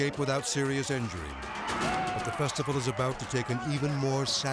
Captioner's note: people clamoring